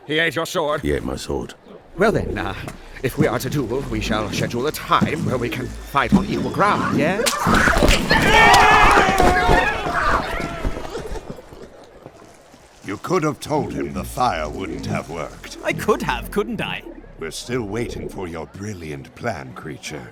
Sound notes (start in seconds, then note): 8.0 gaat screams as the creature attacks him and runs away